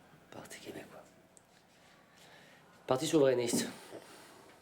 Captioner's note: speaks French